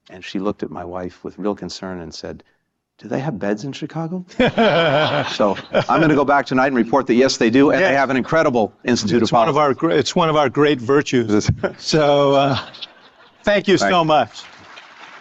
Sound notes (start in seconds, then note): 4.3 laughter; 13.9 applause